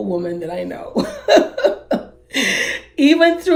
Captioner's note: laughs